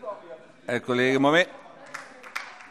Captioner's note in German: Beifall DIE LINKE - Zurufe Freie Demokraten